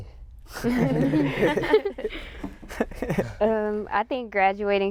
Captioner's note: laughter